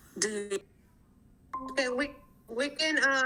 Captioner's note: screen chimes